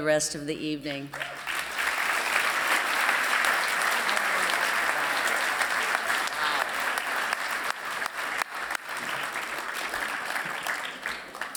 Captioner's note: applause